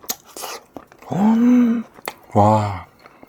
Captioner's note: gasp